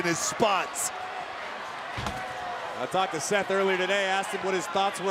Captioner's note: applause